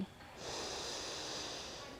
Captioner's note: sniffing